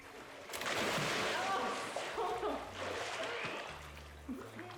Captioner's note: splashing